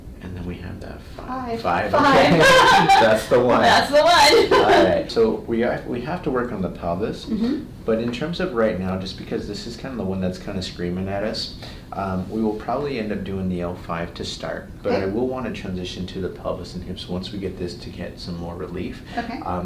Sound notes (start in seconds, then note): 1.8 both people laugh; 4.9 laughs